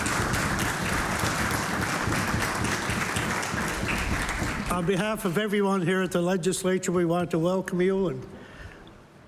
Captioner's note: applause